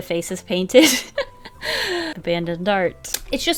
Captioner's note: laughs